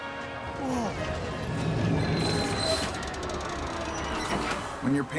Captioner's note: gears stopping